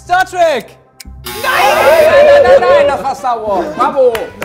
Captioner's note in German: Buzzer